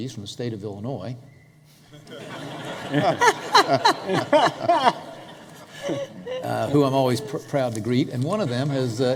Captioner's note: laughter